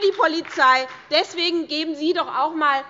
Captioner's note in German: Beifall bei der SPD